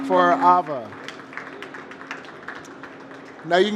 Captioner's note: applause